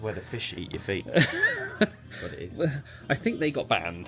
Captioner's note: laughs